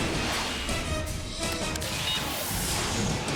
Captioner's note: jets whoosh through air